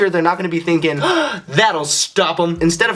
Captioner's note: gasps